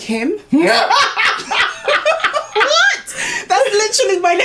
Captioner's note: laughs